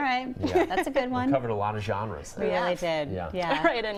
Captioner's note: laughter